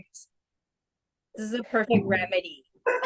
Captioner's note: laughing